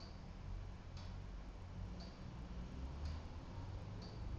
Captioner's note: clock ticking